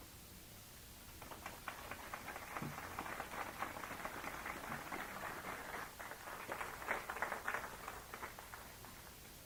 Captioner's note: applause